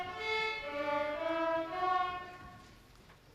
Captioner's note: none